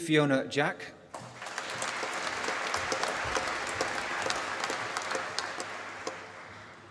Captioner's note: applause